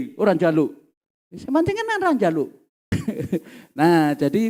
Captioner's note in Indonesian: tertawa